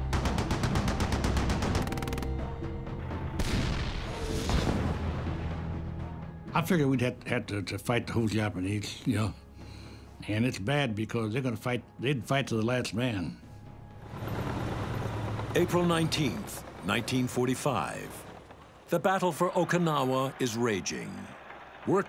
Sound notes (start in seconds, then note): 0.1 rapid gunfire exploding; 3.3 cannon shots exploding; 13.7 tanks rumbling